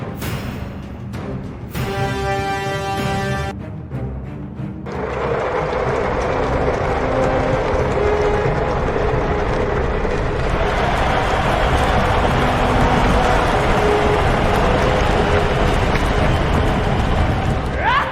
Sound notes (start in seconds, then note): 5.1 all shouting; 10.7 all shouting; 14.7 dramatic orchestral music continues